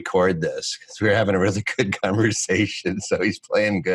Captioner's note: chuckles